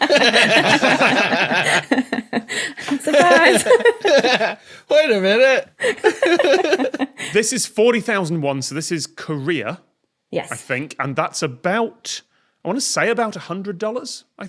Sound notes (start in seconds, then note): 0.0 group laughing; 6.0 both laugh